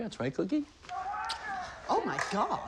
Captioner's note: crowd Chanting